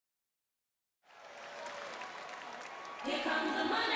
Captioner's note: audience chattering